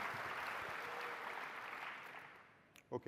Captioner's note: applause